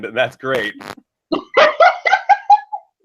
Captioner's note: laughs